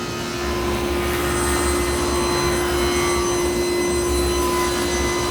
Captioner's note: table saw whirring